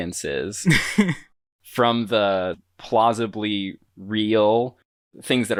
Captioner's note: laughs